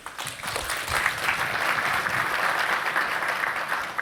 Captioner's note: applause